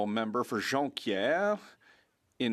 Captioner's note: speaking French